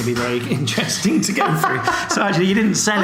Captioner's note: laughs